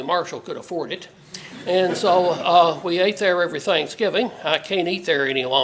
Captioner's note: laugh